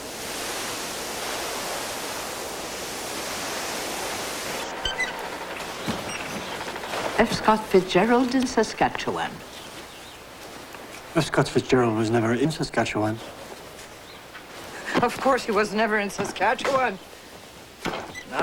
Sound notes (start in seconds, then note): 0.8 blowing of wind